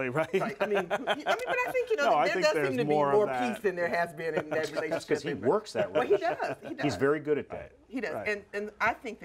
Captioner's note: laughter